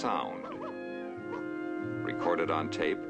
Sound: barking

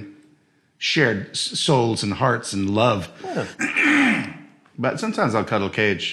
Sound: clears throat

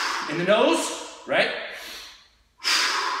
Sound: exhaling

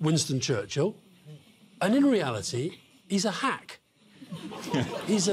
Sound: laughter

